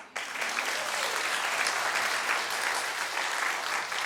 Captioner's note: audience clapping